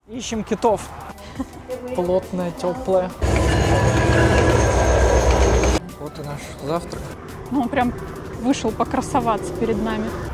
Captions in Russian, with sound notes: Ищем китов. *Звук от поезда* Вот и наш завтрак. Он прям вышел покрасоваться перед нами.